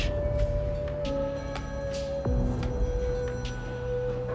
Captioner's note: ringing